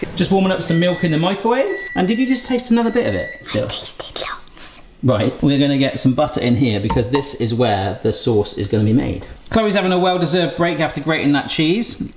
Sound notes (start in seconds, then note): 3.5 whispers